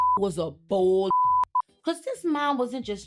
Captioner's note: beep